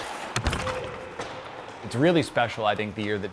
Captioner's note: players shouting; boards rattling